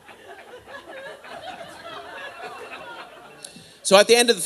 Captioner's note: audience laughing